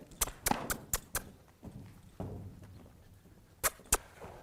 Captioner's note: making clicking noises